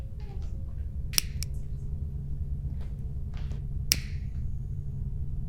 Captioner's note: switch clicking